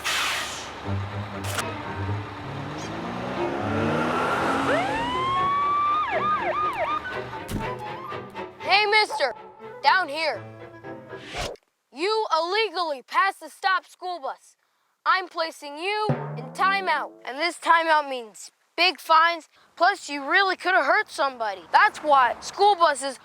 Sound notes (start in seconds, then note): 6.1 siren